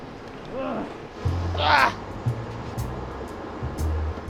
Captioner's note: making uncomfortable noises